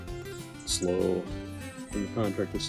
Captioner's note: birds chirp